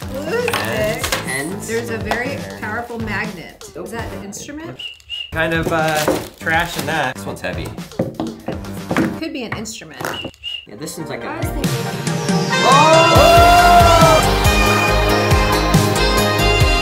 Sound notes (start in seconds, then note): 4.7 whistles; 10.0 whistles; 11.8 warm saxophone music